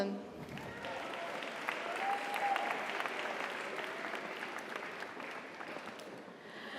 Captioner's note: audience applauds; audience cheers